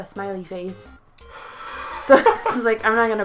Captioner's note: laughs